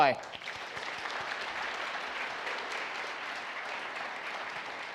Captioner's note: audience applauds